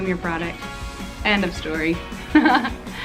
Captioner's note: laughs